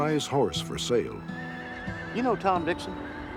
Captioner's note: horse neighing